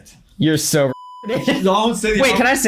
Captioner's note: laughs